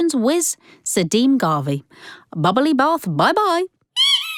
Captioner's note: sound of a rubber duck squeaking